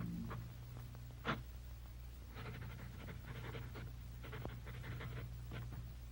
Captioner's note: pencil scratching softly